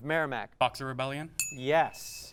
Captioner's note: ding